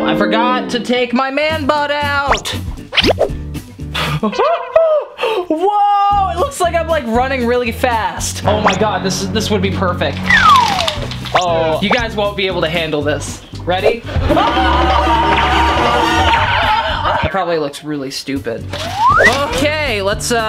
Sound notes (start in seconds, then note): 4.0 chuckling; 10.3 slide whistling; 14.3 screaming